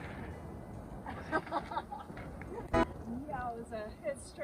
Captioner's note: nervous laughter